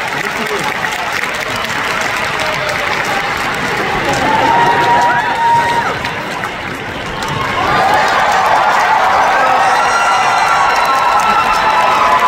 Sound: even More Applause & Screaming

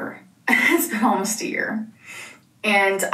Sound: laughs; sniffs

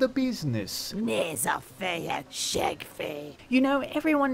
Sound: speaking foreign language

